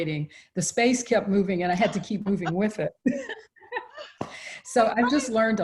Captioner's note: both laugh